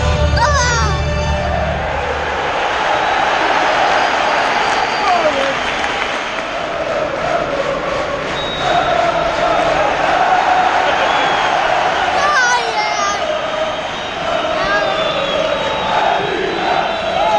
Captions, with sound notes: Come on [Whistle] Come on United